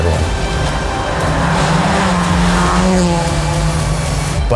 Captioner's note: engine revving